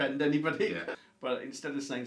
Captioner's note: chuckles